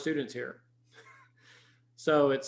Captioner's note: chuckles